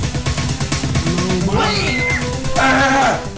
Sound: dying noises

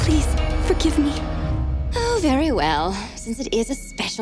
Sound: sighing

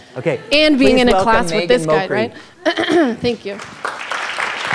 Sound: applause

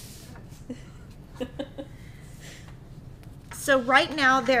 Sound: laughing

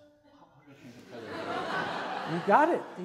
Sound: audience laughs

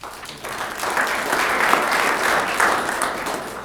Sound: applause

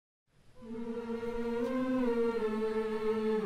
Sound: humming

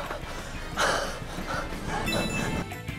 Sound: panting

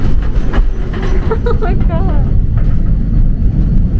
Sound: laughs

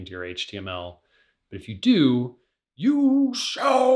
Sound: imitating gandalf

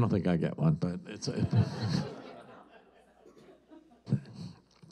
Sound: audience laughs

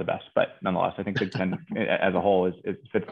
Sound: laughing

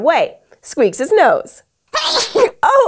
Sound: Squeaks sneezes

